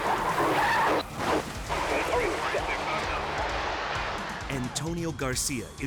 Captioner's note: vehicles thudding; tires screeching